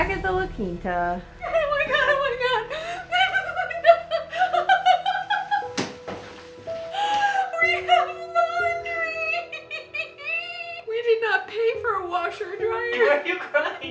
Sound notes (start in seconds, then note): 3.7 excited gibberish